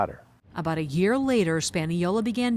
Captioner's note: voice-over